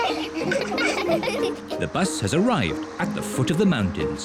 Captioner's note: all giggle